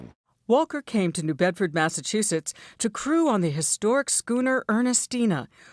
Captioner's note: voice-over